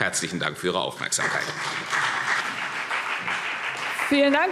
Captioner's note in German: Beifall CDU und BÜNDNIS 90/DIE GRÜNEN